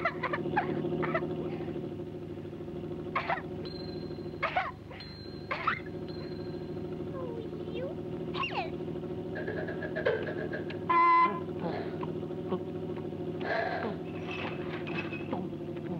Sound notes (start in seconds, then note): 4.8 smoke rings chiming; 10.7 horn honks; 12.8 man chewing loudly